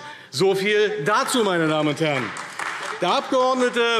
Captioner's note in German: Beifall AfD